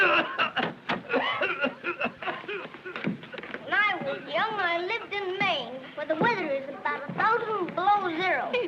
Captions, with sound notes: [coughing continues] When I was young, I lived in Maine, Where the weather is about a thousand below zero. [children giggling]